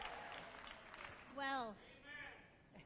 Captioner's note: applause